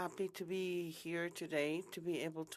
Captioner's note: speaking in French